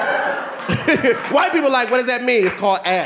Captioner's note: audience laughing